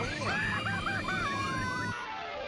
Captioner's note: screaming